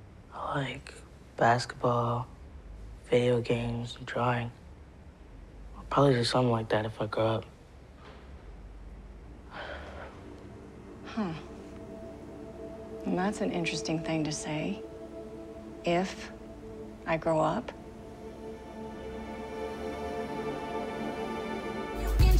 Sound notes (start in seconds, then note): 9.0 tense ascending music; 9.4 sighing